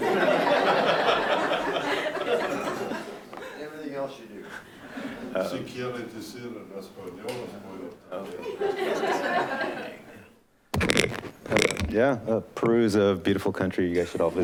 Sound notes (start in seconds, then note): 0.2 laughing; 5.7 speaking off microphone; 8.6 laughing